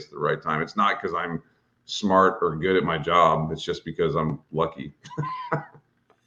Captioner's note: laughs